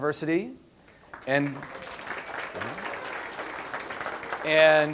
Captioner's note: audience applause